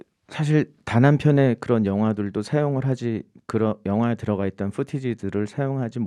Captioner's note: speaking in Korean